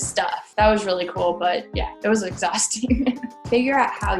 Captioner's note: laughs